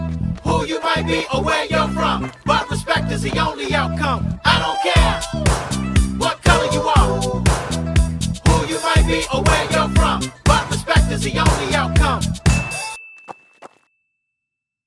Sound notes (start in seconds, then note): 12.4 bell dings